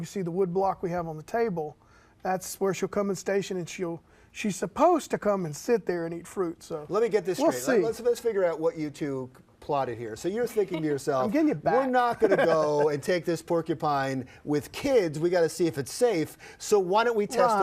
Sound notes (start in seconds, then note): 10.6 laughs